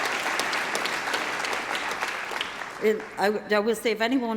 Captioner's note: applause